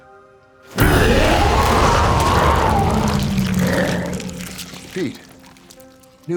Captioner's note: Pete wails; dramatic music